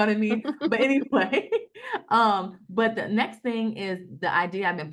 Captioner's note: laughs